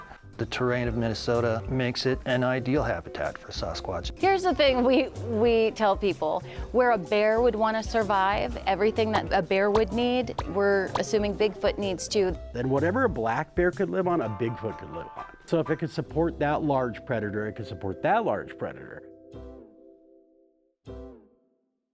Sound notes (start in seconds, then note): 8.9 graphics popping; 19.0 playful music